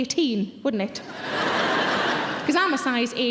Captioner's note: audience laughing